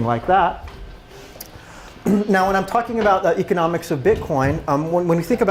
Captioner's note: cough